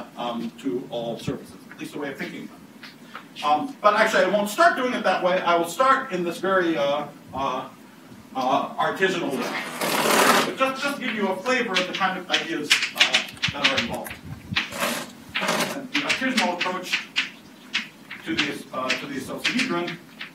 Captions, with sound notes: to all surfaces, at least a way of picking them. But actually I won't start doing it that way. I will start in this very artisanal way. (drill buzzing) But just to give you a flavor of the kind of ideas that are involved, the artisanal approach to the associahedron